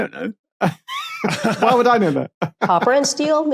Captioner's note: both laughing